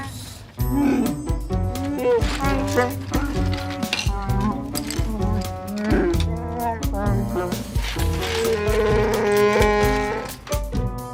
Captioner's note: Chewbacca sounds